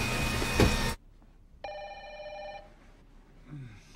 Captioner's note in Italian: telefono squilla